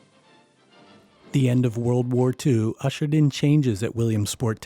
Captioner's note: voiceover